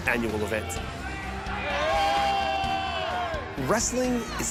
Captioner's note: crowd cheering